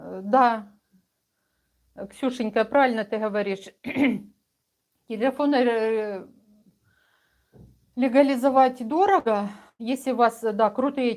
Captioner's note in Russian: откашливается